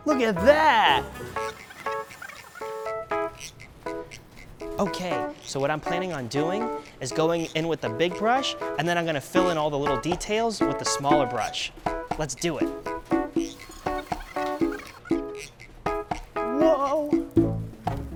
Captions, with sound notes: Look at that! (sped up voice squeaks) Okay. So, what I'm planning on doing, is going in with a big brush, and then I'm gonna fill in all the little details with the smaller brush. Let's do it. (silly music continues) (sped up voice squeaks) Whoa!